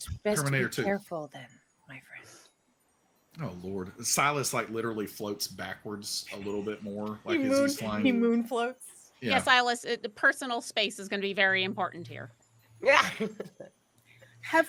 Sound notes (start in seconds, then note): 9.3 laughs; 12.8 laughs